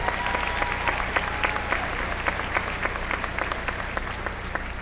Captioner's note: applause